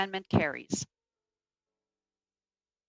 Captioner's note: speaking in French